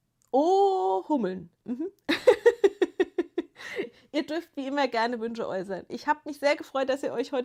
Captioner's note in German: gelächter